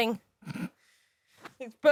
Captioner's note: sniggers